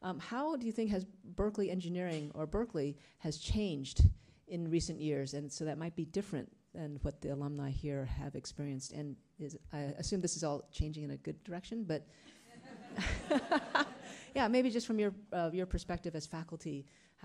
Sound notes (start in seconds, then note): 12.4 attendees laughing; 12.6 laughing